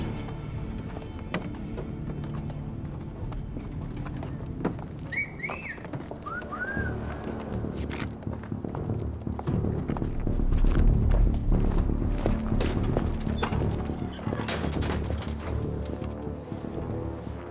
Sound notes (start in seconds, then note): 4.9 men whistle; 7.5 dramatic music